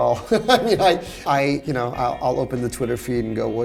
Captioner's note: laughs